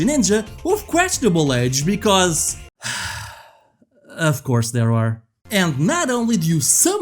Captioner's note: sighs